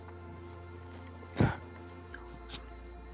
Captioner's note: sobs